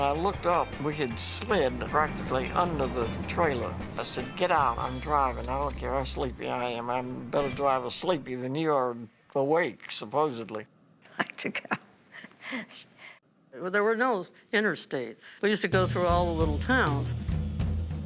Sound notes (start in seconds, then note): 11.0 laughing